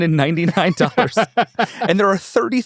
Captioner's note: laughs